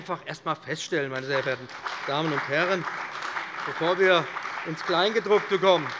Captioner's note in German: Beifall bei dem BÜNDNIS 90/DIE GRÜNEN und der CDU